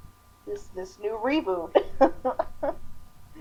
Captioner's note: agonizing chuckling